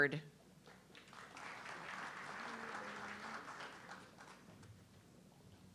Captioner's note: audience clapping